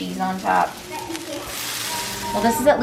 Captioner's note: potato cakes sizzle